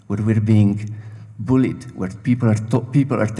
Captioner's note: none